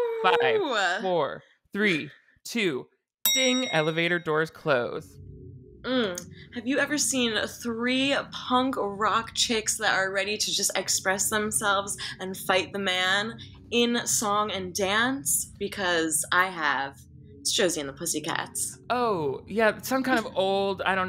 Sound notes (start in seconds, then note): 3.2 bell dings